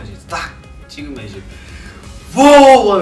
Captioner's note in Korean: 들숨